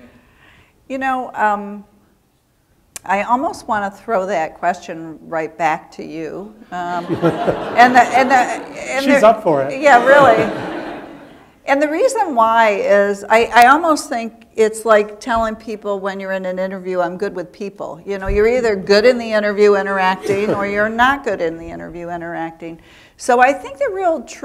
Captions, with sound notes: OTHER PRESIDENTS? WOW. YOU KNOW, I ALMOST WANT TO THROW THAT QUESTION RIGHT BACK TO YOU. [ LAUGHTER ] SHE IS UP FOR IT. YEAH, REALLY. AND THE REASON WHY IS I ALMOST THINK IT'S LIKE TELLING PEOPLE WHEN YOU'RE IN AN INTERVIEW I'M GOOD WITH PEOPLE. YOU ARE EITHER GOOD IN THE INTERVIEW INTERACTING OR YOU ARE NOT GOOD IN THE INTERVIEW